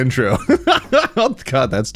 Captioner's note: laughing